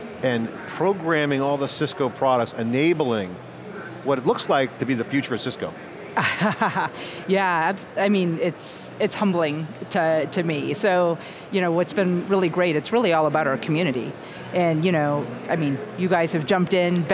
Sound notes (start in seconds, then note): 6.2 laughs